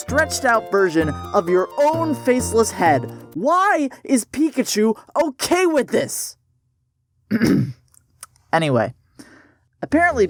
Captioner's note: clears throat